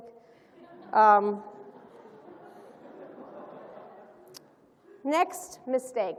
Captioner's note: laughter